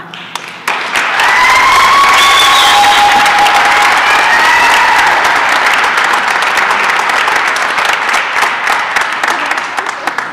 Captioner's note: applause and cheering